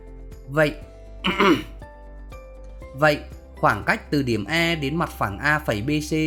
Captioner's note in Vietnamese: hắng giọng